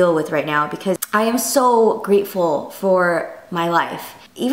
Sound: none

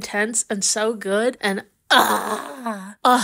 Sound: groans

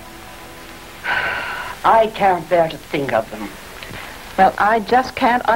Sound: sighing

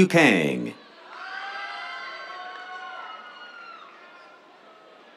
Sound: cheers

